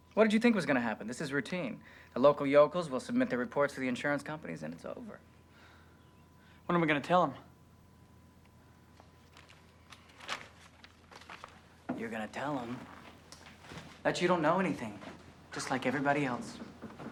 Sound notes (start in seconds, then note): 9.0 paper rustling; 16.8 door knocking